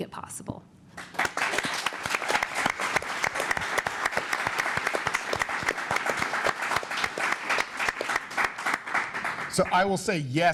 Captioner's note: applause